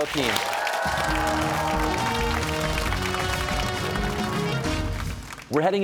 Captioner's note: cheers and applause